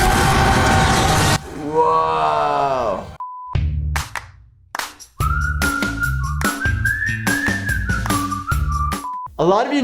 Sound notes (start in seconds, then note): 1.5 screams; 3.2 beep; 5.1 whistling; 8.9 beep